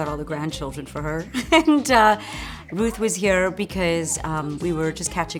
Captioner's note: laughs